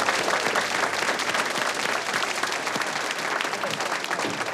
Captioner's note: clapping